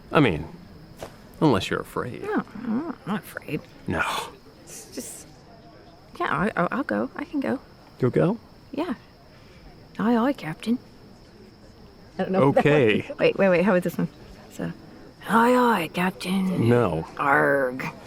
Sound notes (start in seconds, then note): 15.0 imitating pirate